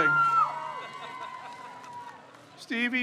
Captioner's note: crowd cheers